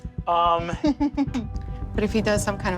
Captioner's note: laughs